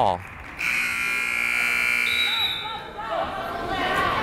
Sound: buzzer

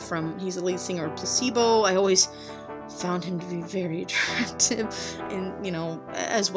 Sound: laughs at self

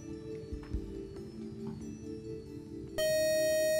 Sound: buzzer

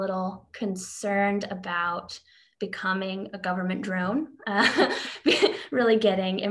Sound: laughs

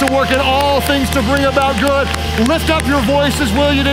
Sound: audience applauds

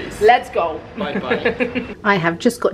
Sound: laughing

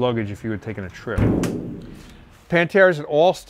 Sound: car hood bangs shut

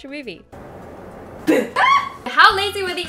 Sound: screams

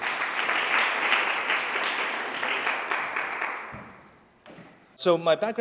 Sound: applause

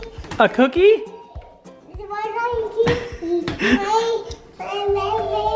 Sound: vocalizing

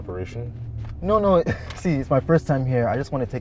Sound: chuckling

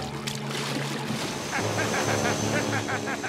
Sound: laughing

